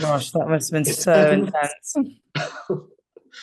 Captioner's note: laughing